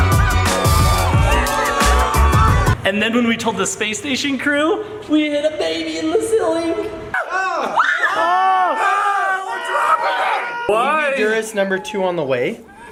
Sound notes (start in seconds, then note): 7.2 yelling